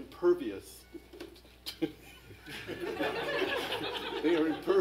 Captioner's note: laughter